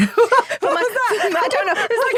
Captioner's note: Ruth chuckles; laughs